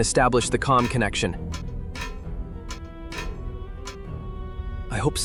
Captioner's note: ladder creaking as he climbs down